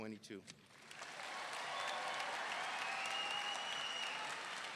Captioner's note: audience cheering